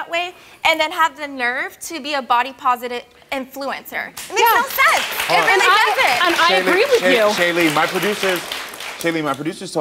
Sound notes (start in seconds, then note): 4.4 audience applauds